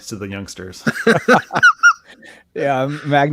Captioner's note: laughing